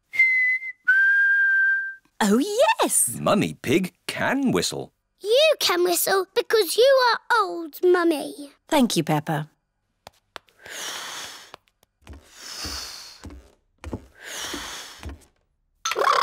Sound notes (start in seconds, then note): 0.0 whistles; 10.8 blows; 12.4 continues blowing